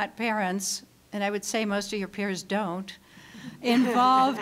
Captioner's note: audience laughing